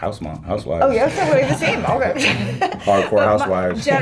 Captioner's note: laughter